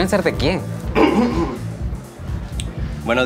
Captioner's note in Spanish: Óscar carraspea